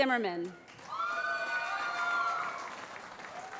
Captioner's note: cheering